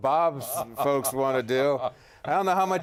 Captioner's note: laughter